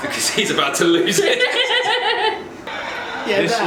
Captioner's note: laughs